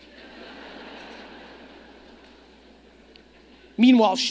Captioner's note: audience laughing